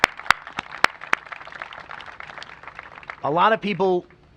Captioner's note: applause